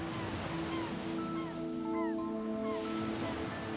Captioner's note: birds chirping